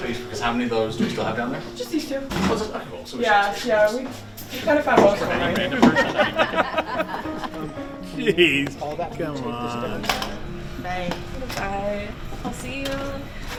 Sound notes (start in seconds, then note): 5.1 laughing